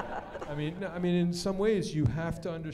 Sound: laughter

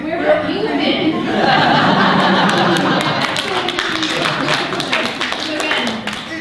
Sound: audience laughter and applause

